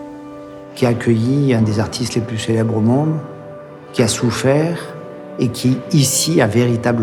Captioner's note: speaking in foreign language continues